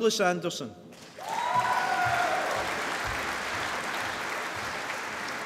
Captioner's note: applause